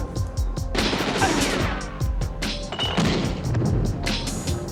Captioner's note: gunshots ringing